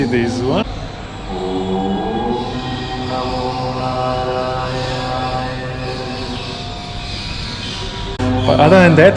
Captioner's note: chant